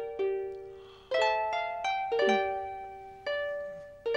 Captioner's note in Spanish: Xax suspirando